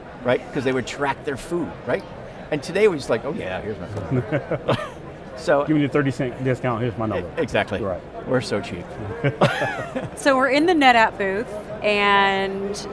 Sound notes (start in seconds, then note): 3.9 laughs; 4.0 laughing; 9.0 laughing